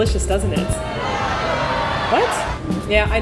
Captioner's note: booing crowd